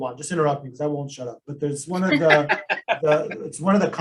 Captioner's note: laugh